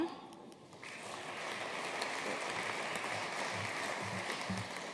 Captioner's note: audience applauding